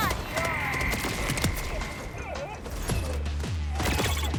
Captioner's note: guns firing